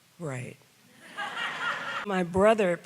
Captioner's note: audience laughs